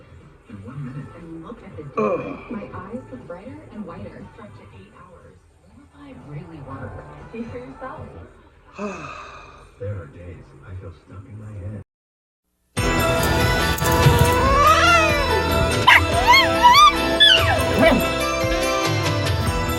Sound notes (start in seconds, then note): 12.6 hisses, then growls; 15.7 Ella barks and howls